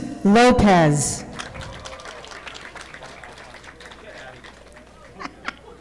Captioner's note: audience clapping